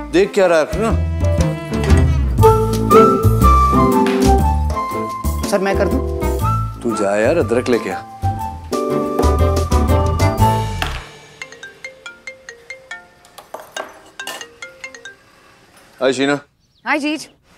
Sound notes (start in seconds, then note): 1.7 utensil sond; 11.3 phone ringing